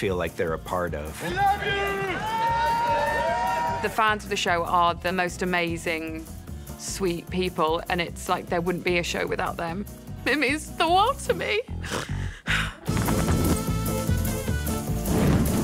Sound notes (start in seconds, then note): 1.2 cheering; 11.8 exaggerated sobbing; 11.8 sighs